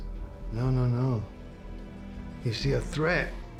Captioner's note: scottish accent